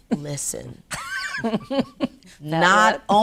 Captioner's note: laughs